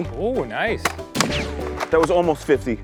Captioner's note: pew